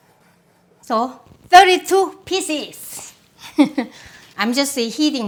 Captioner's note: laughing